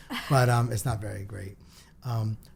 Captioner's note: laughs